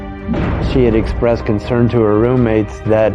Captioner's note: gunfire blasting